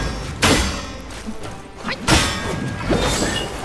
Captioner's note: swords clanking